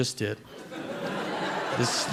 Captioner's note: audience laughs